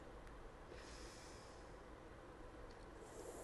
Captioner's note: inhales; exhales; inhales